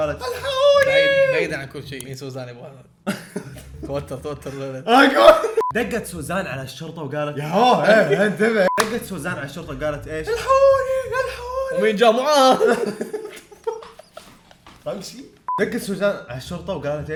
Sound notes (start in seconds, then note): 0.3 mockingly; 3.0 laughs nervously; 10.4 repeats mockingly; 14.2 laughs